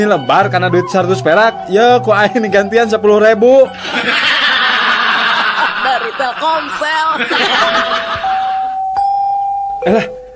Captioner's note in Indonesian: tertawa